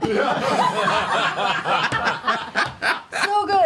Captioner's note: laughter